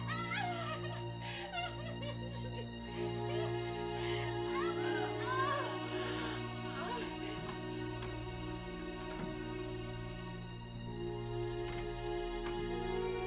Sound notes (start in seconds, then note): 0.0 crying; 3.9 moaning; 7.2 soft dramatic music